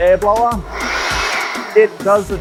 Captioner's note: air blower whirring